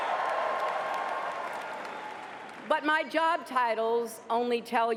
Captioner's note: cheers and applause